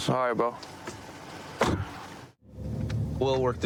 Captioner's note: car door closes